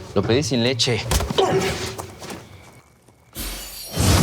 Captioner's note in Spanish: Golpes